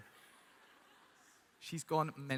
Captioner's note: people laughing